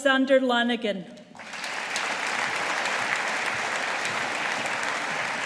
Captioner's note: audience applauding